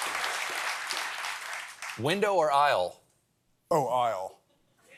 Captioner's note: applause